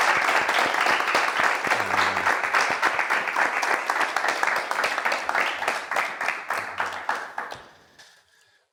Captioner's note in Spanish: Aplausos